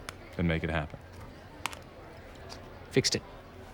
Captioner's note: clicks